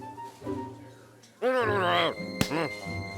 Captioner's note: grumbling